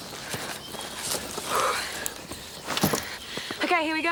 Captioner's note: Jodie sighs